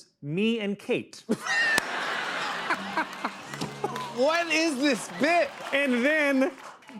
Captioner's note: laughter